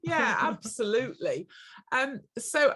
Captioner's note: laughter